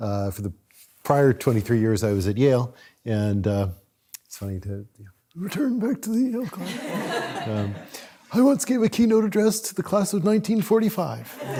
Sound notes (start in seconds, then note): 4.8 in elderly voice; 6.5 audience laughs; 11.3 audience laughs